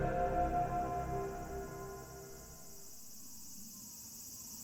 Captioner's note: crickets chirping